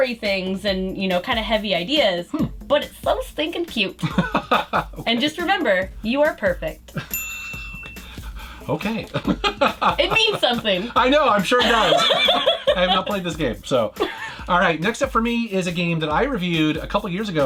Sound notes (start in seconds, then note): 8.8 laughs; 12.0 both laugh